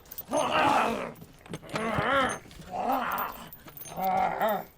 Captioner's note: chain rattling; zombie walter groaning